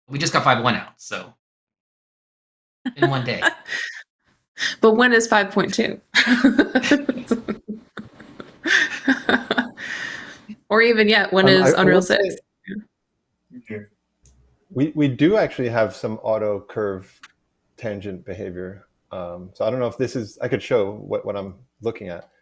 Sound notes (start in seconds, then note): 6.2 laughter; 6.2 chuckles